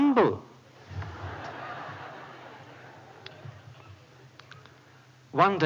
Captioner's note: laughter